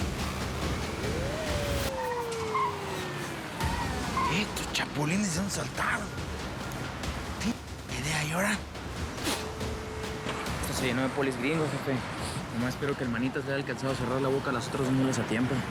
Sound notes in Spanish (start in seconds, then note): 0.1 sirenas